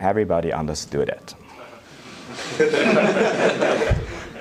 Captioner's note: audience laughter